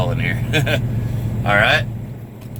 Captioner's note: laughs